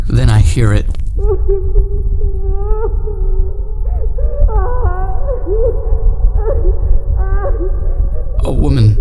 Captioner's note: woman Crying